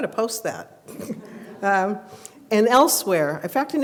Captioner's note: laughs